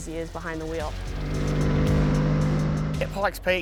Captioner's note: engine revving